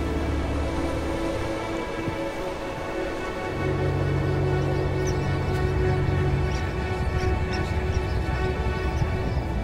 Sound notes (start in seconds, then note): 5.1 birds singing